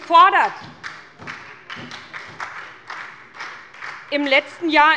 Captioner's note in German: Beifall bei der SPD